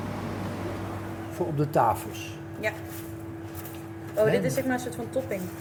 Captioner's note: speakers speak in Danish